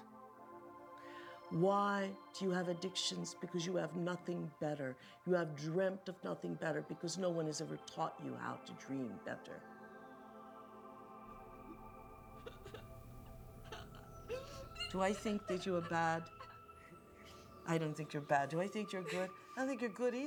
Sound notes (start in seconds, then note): 11.5 laughing